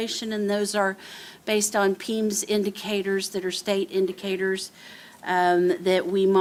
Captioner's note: none